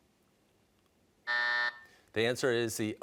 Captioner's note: buzzer